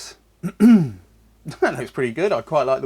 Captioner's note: coughs